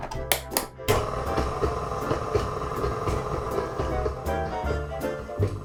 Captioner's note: mixer whirring; upbeat jazz music